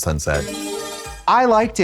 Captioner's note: bright chime